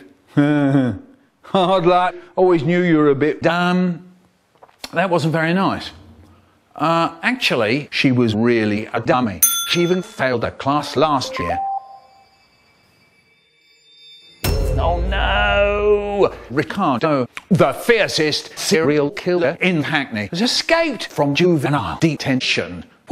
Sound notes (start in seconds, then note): 11.2 iPhone notification